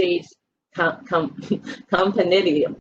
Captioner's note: laughing